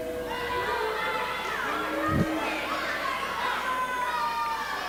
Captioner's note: crowd shouts angrily